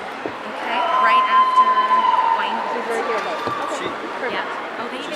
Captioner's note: audience cheering